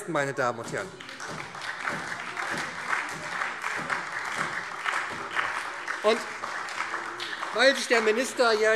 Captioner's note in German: Beifall